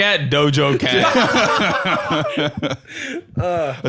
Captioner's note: all laughing